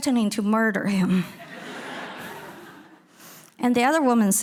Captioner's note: audience laughing